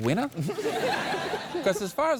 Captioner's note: laughs